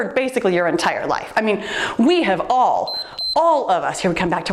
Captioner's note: timer beeps